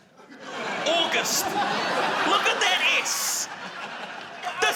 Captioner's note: laughter